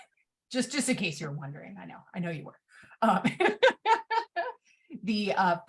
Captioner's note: laughs